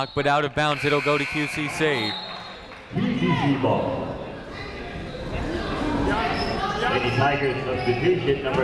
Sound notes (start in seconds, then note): 2.3 buzzer ringing; 5.4 people talking in the crowd; 7.5 muffled voice speaking over speaker